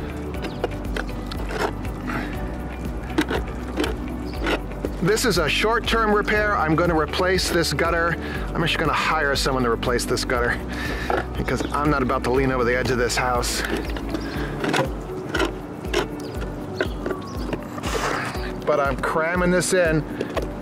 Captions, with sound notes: (scraping) This is a short-term repair. I'm gonna replace this gutter. I'm actually going to hire someone to replace this gutter, because I'm not about to lean over the edge of this house. (scraping) But I'm cramming this in.